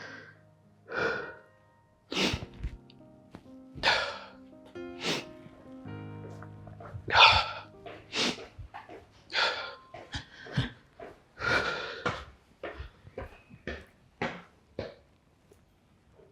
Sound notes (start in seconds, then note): 0.6 sighs, sniffles